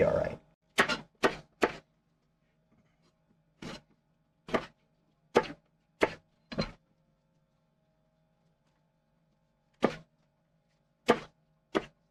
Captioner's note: knife cutting